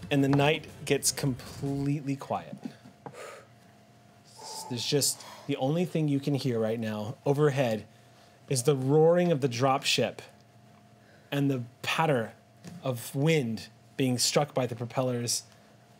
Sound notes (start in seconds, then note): 4.2 exhales